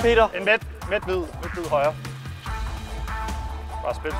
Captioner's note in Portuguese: none